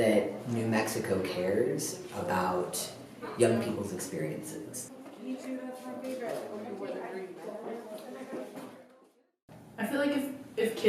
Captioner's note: muffled chatter